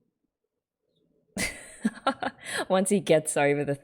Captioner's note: laughs